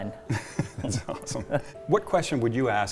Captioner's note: laughs